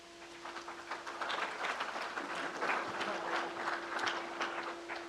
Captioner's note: crowd applauds